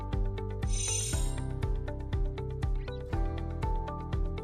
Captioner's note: chimes tinkling